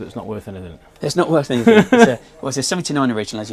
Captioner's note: laughs